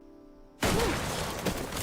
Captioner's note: gunshot